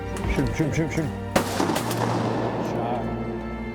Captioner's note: gun shots